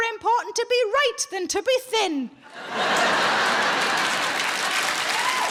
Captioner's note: audience laughs